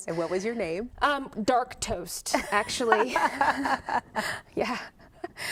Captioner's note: laughter